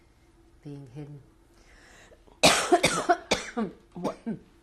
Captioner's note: pauses for 3 seconds